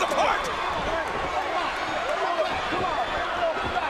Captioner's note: refs chattering